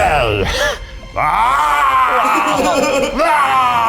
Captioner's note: growls